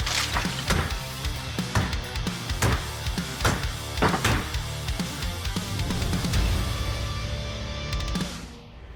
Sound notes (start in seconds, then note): 0.8 chopping